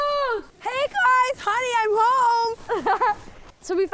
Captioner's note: laughs